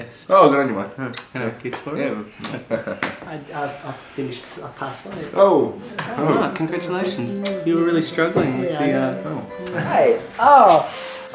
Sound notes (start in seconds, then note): 1.1 audible kiss; 2.3 chuckles; 5.7 audible kiss; 7.4 audible kiss; 9.8 audible kiss